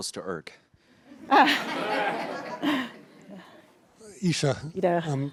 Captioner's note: laughter